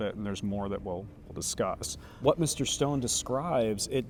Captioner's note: none